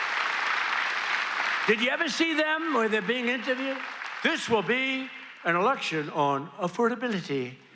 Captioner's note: applause